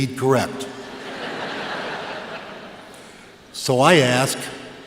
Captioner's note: laughter